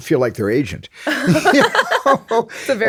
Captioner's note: laughs